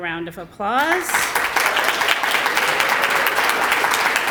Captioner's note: applause